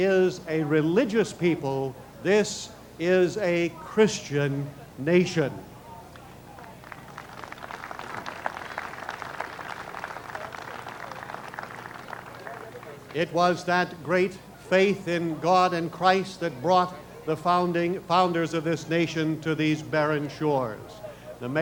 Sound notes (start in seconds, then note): 6.5 applause